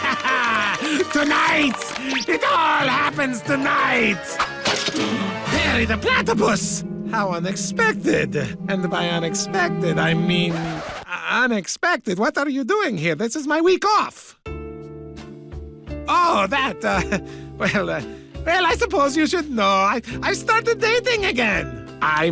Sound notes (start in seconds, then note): 4.4 crash; 4.9 gasps